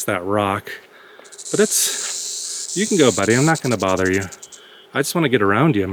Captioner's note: snake rattles